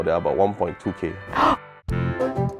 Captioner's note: bigger gasp